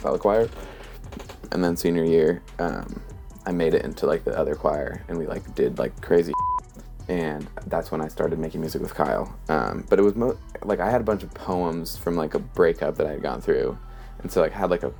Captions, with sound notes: choir. And then senior year I made it into like the other choir and we like, did like crazy *Beep*. And that's when I started making music with Kyle. I had a bunch of poems from like a breakup that I had gone through.